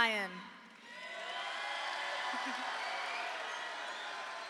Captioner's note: audience applauding